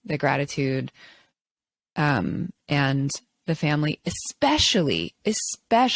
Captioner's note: none